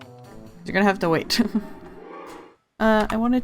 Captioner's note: guilty laugh